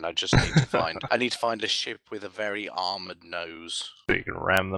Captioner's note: laughs